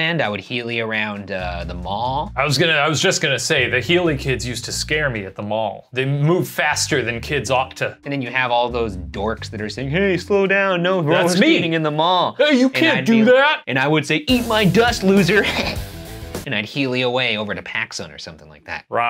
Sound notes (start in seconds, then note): 15.3 chuckling; 15.9 upbeat music